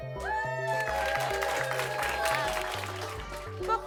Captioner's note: everyone applauding